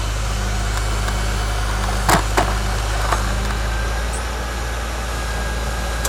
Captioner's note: grapple truck engine revving